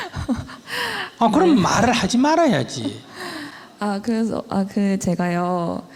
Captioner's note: audience//Questioner Laughter